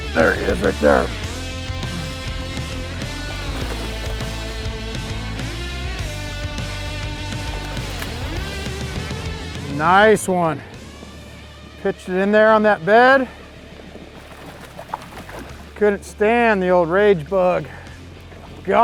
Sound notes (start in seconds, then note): 3.7 water splashing